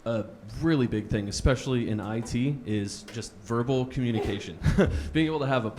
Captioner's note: chuckles